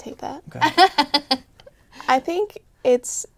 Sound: laughter

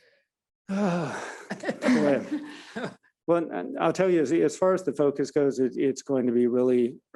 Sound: sighs

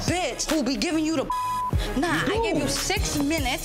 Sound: beep

